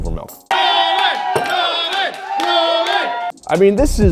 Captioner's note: crowd